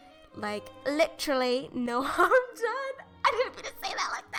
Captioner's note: dissolves into laughter; breathless Laughter